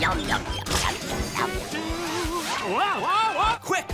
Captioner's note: humming